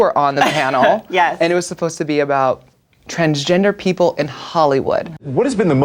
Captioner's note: laughs